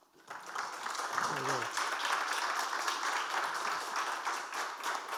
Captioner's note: audience applauding